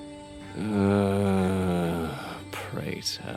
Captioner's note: uri groans